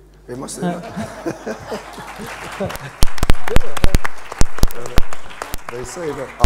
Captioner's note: laughter and applause